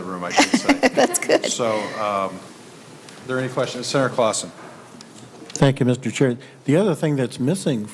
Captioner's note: laughter